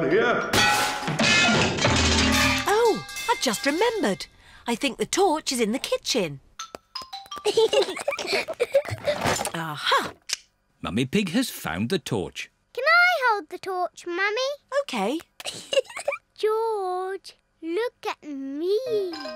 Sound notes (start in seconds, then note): 0.5 clanging and crashing; 7.4 peppa and george giggling; 15.4 giggles